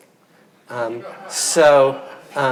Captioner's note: audience laughing